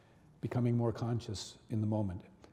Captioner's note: none